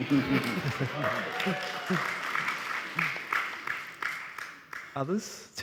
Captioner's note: audience cheering and applauding